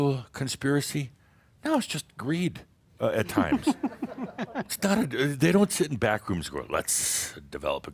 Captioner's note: some chuckles